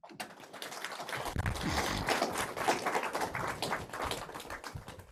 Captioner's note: applause